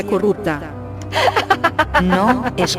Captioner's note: laughs